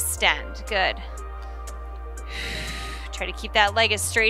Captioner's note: exhales